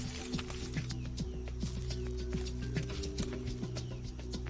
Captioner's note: leaves rustling